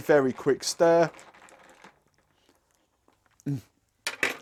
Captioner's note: ice clinking